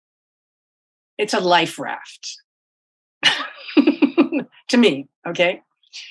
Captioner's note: laughs